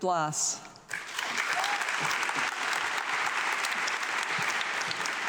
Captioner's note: audience clapping